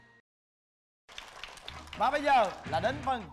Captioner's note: clapping